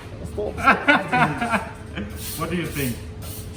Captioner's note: laughing